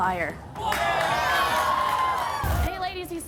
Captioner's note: audience cheers